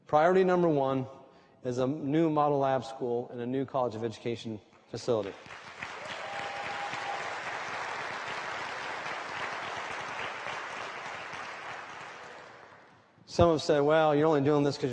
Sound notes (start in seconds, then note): 5.2 applause